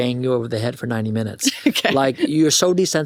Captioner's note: chuckles